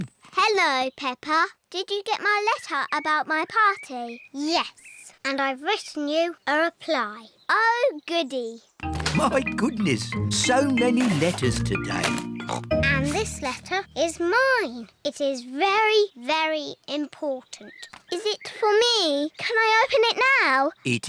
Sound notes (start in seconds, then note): 12.4 snorts